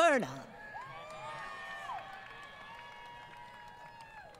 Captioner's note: applause